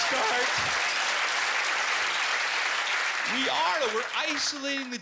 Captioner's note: applause